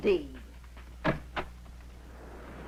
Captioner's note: door opening